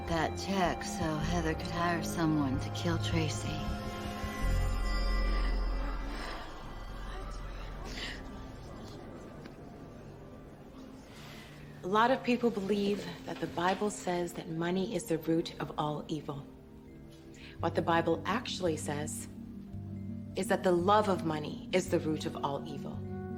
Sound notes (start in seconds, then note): 5.6 sobs